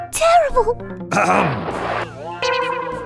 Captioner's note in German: Hust, Hust